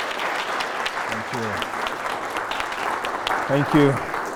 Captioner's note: applause